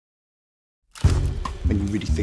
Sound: camera clicking

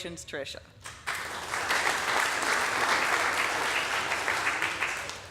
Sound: audience applauding

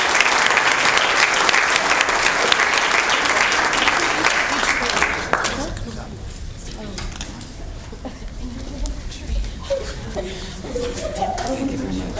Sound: applause

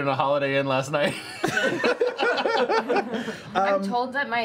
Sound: laughter

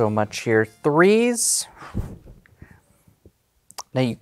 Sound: exhales

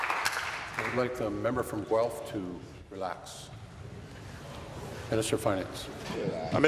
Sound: applause

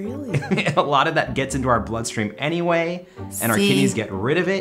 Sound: laughs

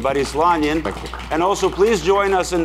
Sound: audience cheering

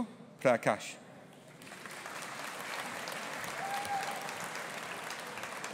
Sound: audience applauding

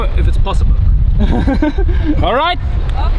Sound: laughing

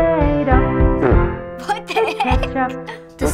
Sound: laughing

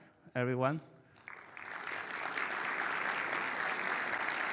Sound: participants applauding

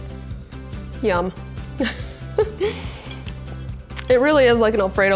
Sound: laughs

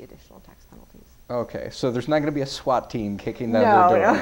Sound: laughter

